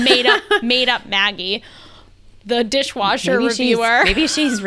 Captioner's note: laughs